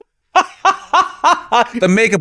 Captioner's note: laughs